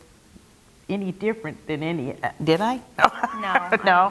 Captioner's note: laugh